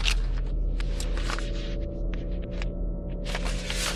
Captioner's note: pages turning